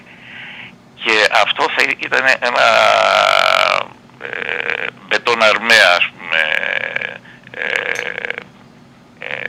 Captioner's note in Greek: βογκητό